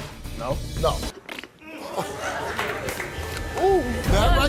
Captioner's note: blowing a raspberry